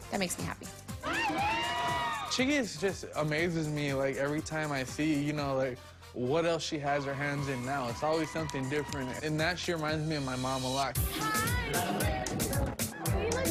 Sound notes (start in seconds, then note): 1.0 screams